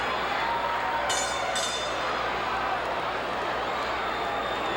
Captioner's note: bell clanging